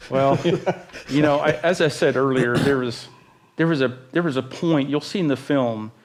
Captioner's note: laughter